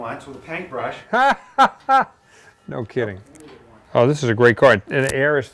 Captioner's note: laughs